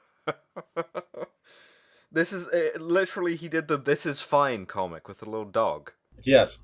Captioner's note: laughter